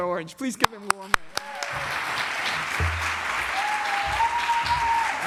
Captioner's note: applause